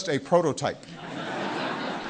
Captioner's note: laughter